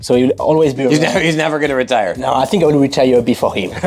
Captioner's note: laughs